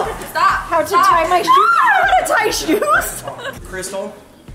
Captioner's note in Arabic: يضحك